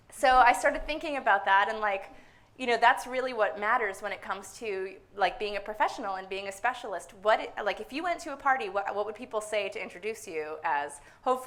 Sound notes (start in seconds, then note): none